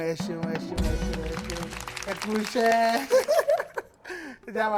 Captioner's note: laughs